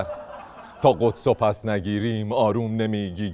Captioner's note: laughter